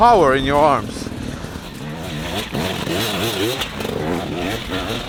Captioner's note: engine revving